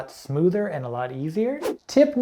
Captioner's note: air whooshing